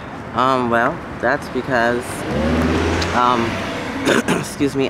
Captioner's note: car revs; coughs